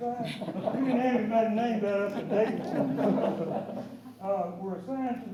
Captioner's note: laughter